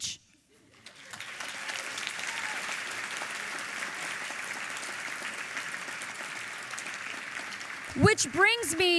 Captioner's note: audience applauding